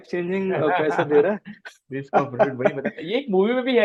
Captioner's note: laughs